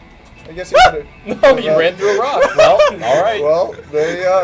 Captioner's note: yelps